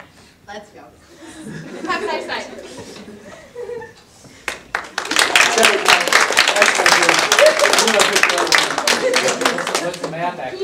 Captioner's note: audience applause